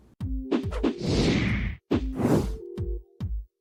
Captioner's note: banners whooshing; upbeat music